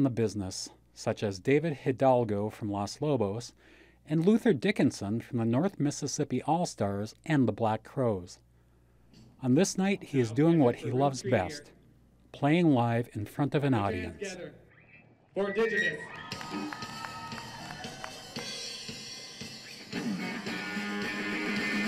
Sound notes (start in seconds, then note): 16.0 applause and cheers; 17.9 playing rock music